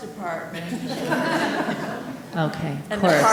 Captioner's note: audience laughing